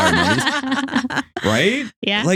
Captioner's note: laughing